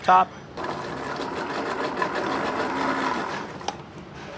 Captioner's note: blender whirring